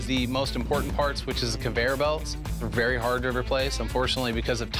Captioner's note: none